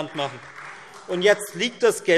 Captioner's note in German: Beifall Freie Demokraten - Zurufe BÜNDNIS 90/DIE GRÜNEN